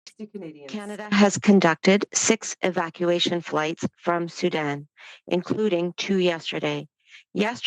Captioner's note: speaking French